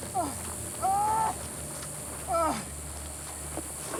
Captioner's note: yelling